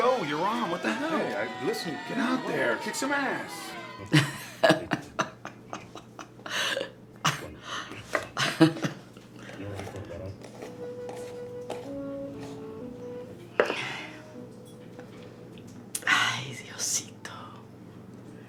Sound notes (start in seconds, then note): 3.7 Mamma Pita laughs; 9.4 mexican movie is playing in the background; 15.9 Spanish